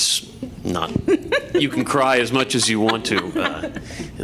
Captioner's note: laughter